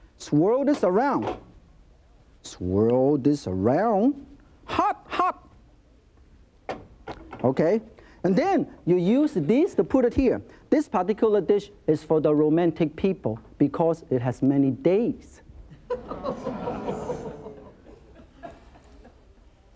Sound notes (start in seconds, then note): 16.1 audience groans